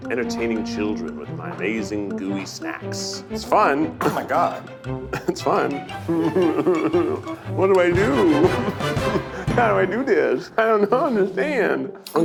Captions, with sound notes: entertaining children with my amazing gooey snacks. It's fun. Oh my god, it's fun. (whining) What do I do? How do I do this? I don't understand.